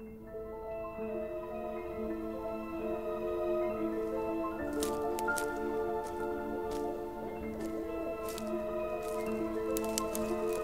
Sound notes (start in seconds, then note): 8.0 forest sounds